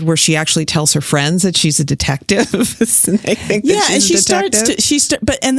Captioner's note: laughs